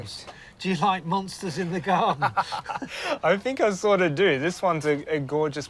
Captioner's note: laughs